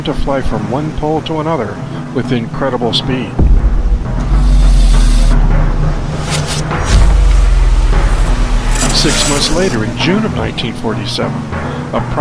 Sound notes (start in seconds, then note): 3.8 digital tones